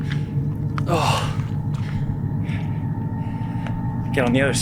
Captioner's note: grunting